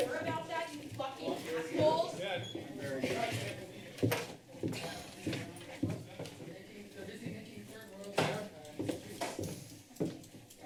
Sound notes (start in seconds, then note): 2.4 foot steps; 8.7 footsteps